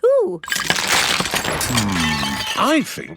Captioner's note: cracking